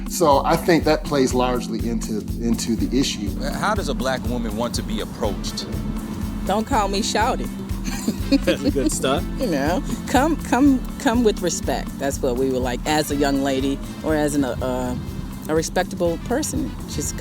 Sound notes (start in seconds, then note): 7.7 laughing